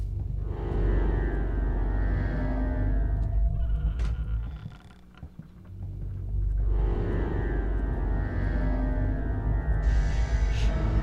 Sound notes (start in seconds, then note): 0.2 suspenseful music; 3.0 door creak noise; 7.1 suspense music